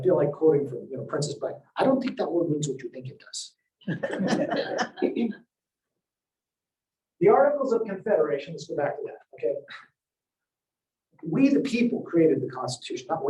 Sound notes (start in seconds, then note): 3.8 laugher